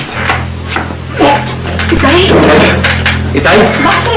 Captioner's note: gags